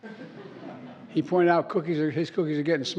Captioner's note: laughter